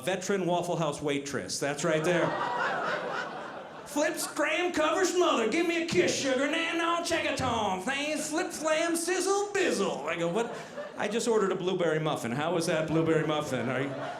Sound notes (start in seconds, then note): 1.8 audience laughing